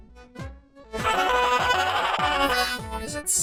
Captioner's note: laughs manically; sighs